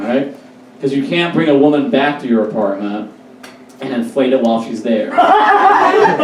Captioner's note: audience Laughs